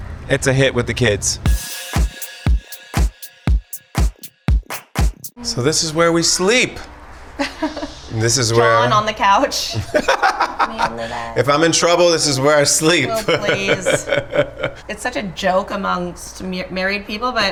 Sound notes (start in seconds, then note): 1.4 upbeat pop music; 9.6 laughs